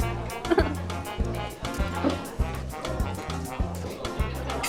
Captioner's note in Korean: 웃음